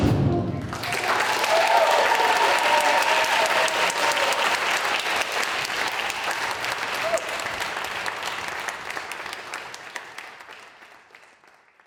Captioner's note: applause